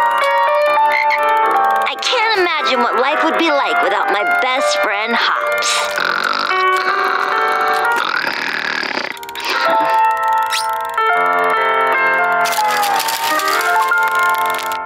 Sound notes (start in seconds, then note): 0.0 croaks; 5.6 snoring